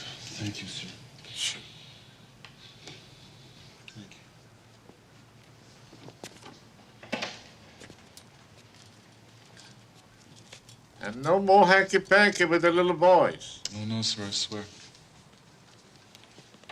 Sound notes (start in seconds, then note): 2.6 scoffs